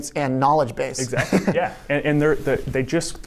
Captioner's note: chuckles